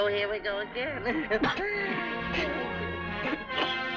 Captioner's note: coughs